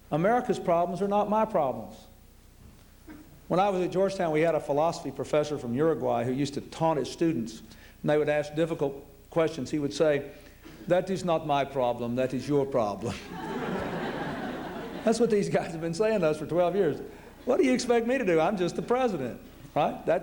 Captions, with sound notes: America's problems are not my problems. When I was at Georgetown, we had a philosophy Professor from Uruguay who used to taunt his students, and they would ask difficult questions. He would say, that is not my problem. That is your problem. [LAUGHTER] That's what these guys have been saying to us for 12 years. What do you expect me to do? I'm just the president, right?